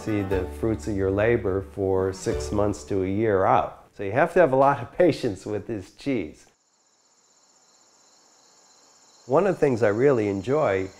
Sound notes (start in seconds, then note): 6.5 crickets chirping